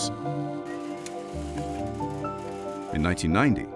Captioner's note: projector whirring